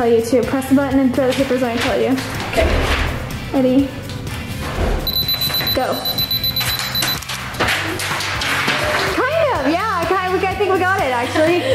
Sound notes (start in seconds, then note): 5.0 beeping